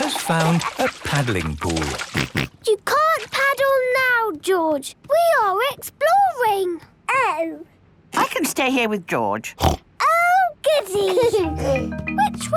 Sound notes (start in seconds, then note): 1.2 George snorts; 9.6 snorts; 10.8 George giggles